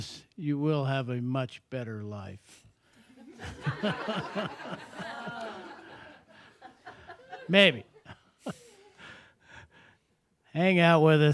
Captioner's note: laughter